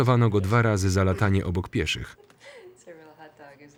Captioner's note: laughing